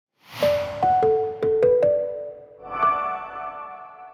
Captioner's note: bells chiming